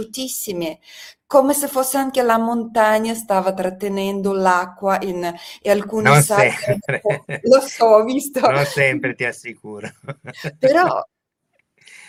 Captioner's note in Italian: risate